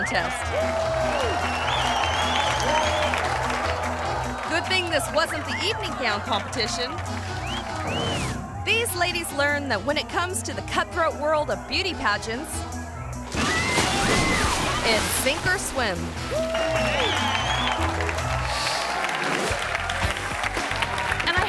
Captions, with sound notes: (audience applauding and cheering) Good thing this wasn't the evening gown competition. (spectator whistling) These ladies learn that when it comes to the cutthroat world of beauty pageants, (spectator whistling) it's sink or swim. (audience applauding and cheering)